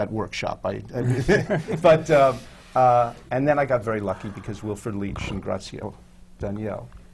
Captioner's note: laughter from the panel